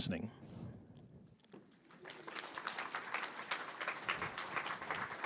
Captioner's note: audience applauding